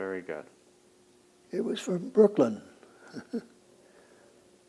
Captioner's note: laughs